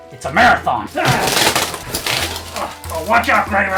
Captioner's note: grunts